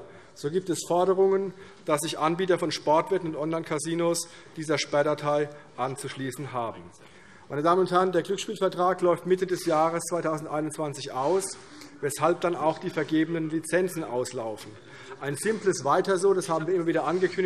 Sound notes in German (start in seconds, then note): none